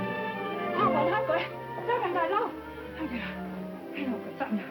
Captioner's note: speaking Chinese